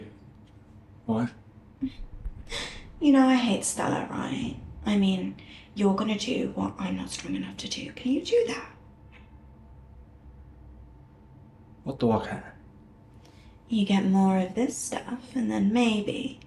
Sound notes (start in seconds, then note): none